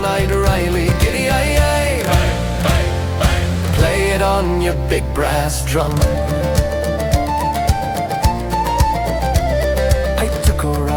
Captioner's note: bang, bang, bang